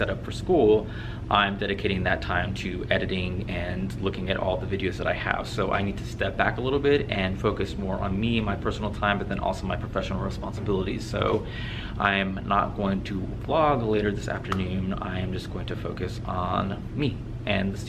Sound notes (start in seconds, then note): none